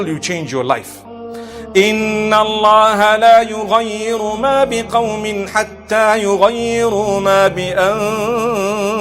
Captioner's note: recitation of Verse